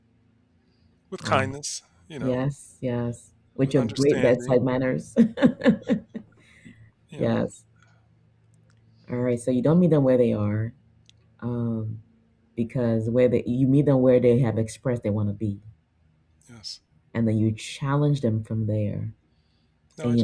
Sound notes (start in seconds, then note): 6.4 laughs